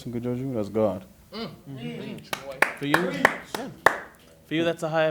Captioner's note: scattered claps, affirmative vocalizations "preach"